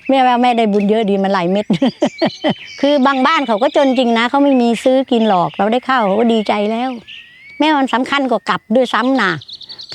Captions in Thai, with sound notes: แม่ว่าแม่ได้บุญเยอะดีมันหลายเม็ด [เสียงหัวเราะ] คือบางบ้านเขาก็จนจริงนะเขาไม่มีซื้อกินหรอก เขาได้ข้าว เขาก็ดีใจแล้ว แม่ว่ามันสำคัญกว่ากับด้วยซ้ำน่ะ